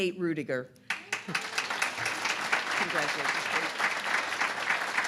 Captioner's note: applause